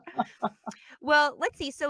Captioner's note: laughs